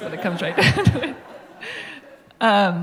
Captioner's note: laughter